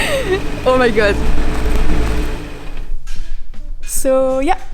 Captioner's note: laugh